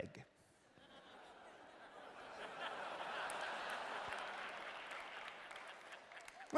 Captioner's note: laughter